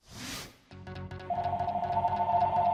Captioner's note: phone ringing